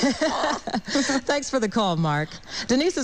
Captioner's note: laughs